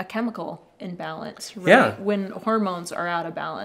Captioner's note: laughing